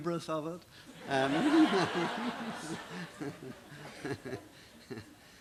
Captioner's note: laughter